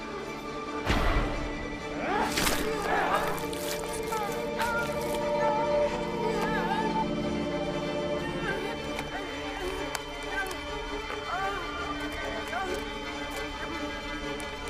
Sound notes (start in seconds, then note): 2.1 stick squishes; 4.4 Evelyn cries and groans